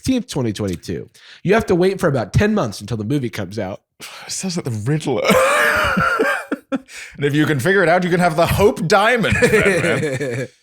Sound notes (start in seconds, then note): 5.3 laughs